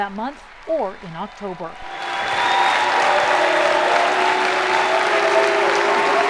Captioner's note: cheers and applause